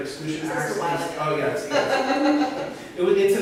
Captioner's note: laughs